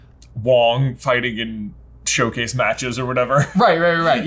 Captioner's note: chuckles